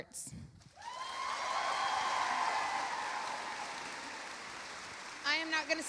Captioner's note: audience applauding; audience cheering